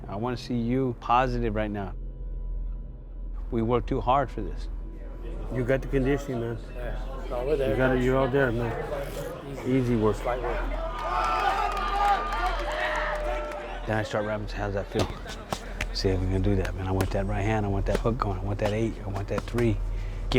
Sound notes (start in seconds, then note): 10.6 crowd yelling